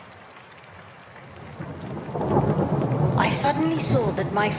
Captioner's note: thunder rumbling